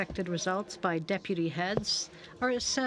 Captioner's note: speaking French